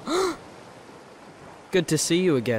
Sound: gasp

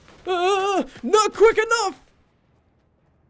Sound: moaning

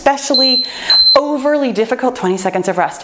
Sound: timer beeping

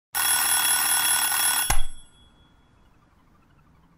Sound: alarm ringing

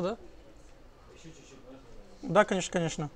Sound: crowd

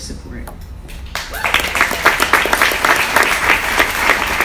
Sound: audience applauds

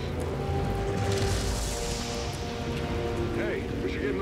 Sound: laser cutter crackles

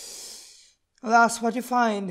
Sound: sigh

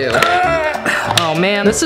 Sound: groans

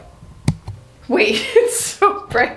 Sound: light clicks; laughs

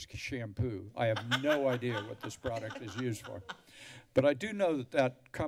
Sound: laughter

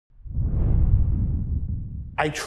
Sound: whooshing sound

